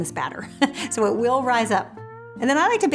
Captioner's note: laughs